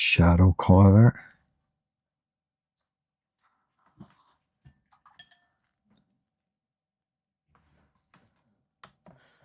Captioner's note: silence